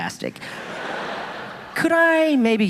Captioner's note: audience laughing